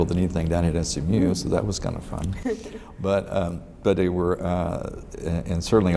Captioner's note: laughs